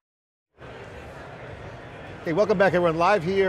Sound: background crowd chatter

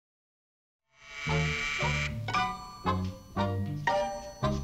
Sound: doorbell buzzing

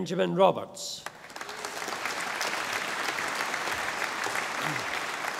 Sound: audience applauding

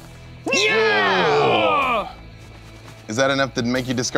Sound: groaning

